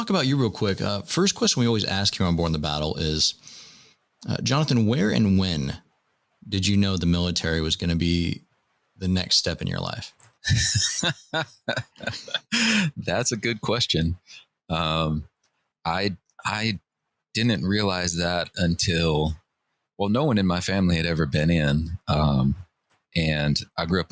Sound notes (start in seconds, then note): 10.4 laughter